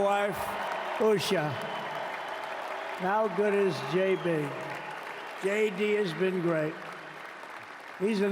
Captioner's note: cheers and applause